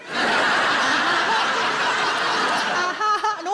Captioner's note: audience laughs